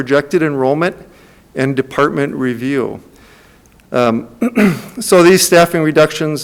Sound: clears throat

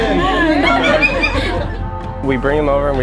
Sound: women laughing

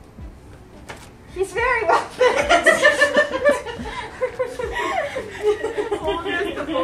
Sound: laughter

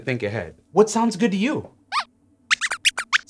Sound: squeaks squeaks

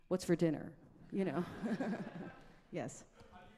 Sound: audience laughs; laughs

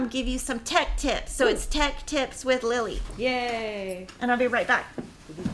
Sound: cheering

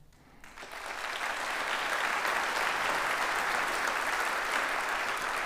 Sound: audience applauds

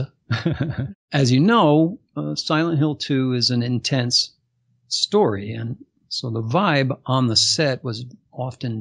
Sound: laughs

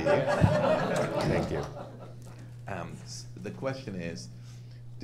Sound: audience laughing

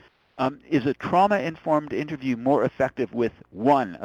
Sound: voiceover

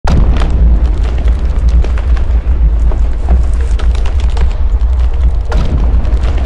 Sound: rumbling!

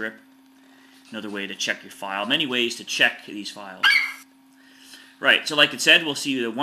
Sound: FlightCheck eagle screeches

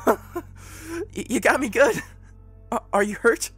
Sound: nervous laugh

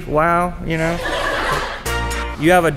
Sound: laughing

